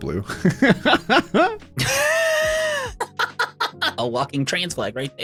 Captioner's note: laughing